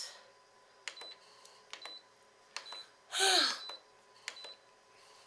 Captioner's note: machine beeping